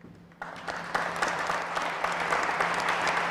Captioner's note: applause